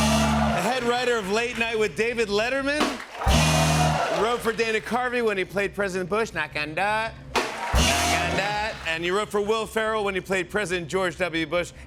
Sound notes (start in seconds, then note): 0.0 cheering; 3.0 cheering; 7.4 cheering